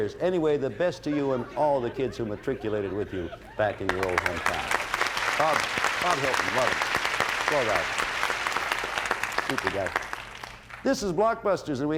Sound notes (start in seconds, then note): 3.8 applause